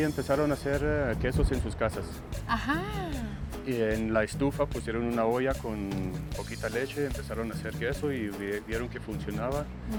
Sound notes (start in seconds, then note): 3.6 both speaking Spanish